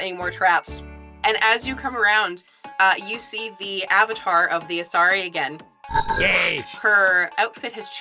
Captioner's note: electronic bell